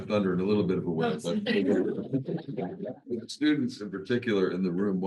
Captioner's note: attendees laughs